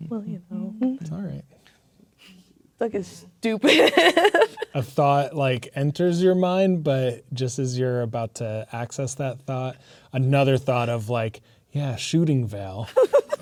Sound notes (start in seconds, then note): 3.7 laughing; 12.9 laughing